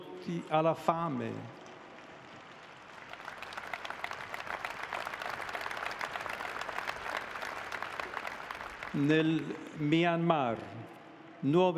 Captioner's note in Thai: ปรบมือ